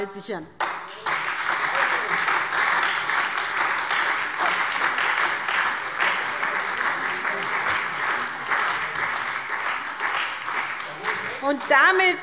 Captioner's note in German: Beifall SPD und Freie Demokraten – Lebhafte Zurufe CDU